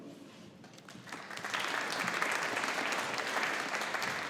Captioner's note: audience applauding